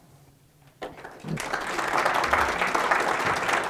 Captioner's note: clapping